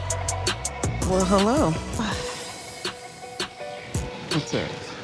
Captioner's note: suspenseful music; sighs